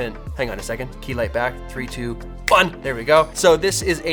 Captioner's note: snapping